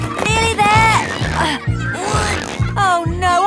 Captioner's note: grunting